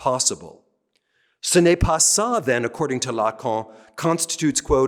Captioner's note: speaking french